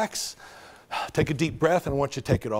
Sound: exhales loudly

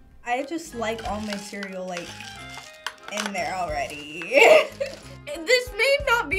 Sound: laughs

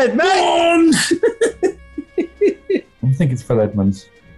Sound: laughing

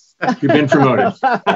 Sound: laughs

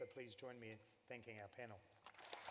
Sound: applause

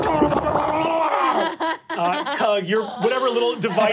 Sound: laughing

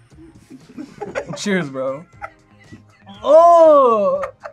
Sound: both laugh; laughs

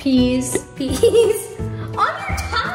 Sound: laughs

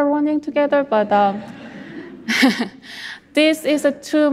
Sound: audience laughs

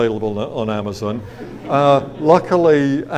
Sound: audience laughs

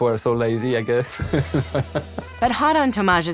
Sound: laughs

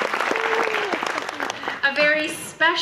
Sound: audience claps

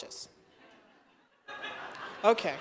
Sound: laughter

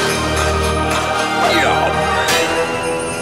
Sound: grunting

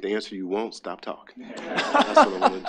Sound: attendees laughing

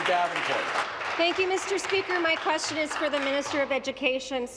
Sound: applause

